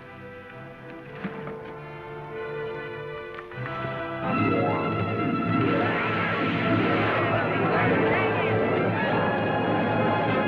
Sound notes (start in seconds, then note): 5.6 people yelling